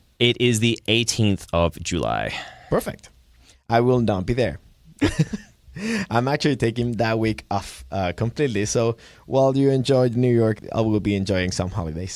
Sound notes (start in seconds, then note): 5.0 laughter